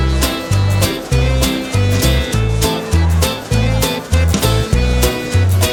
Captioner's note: applause